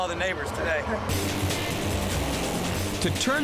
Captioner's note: power tool buzzing